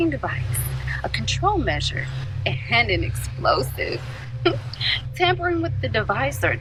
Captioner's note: giggles